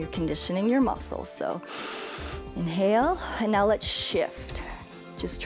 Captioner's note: inhales